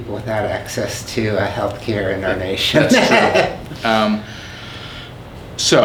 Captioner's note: laughs